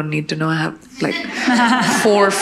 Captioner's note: audience laughing